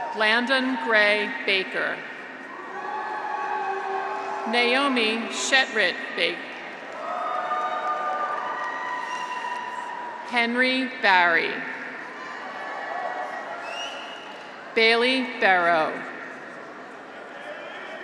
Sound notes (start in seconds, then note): 2.4 graduates cheer; 6.7 graduates cheer; 12.0 graduates cheer